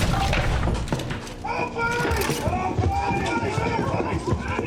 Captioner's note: men shouting